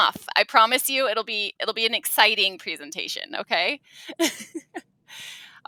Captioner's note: laughs